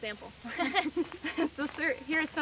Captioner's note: laughs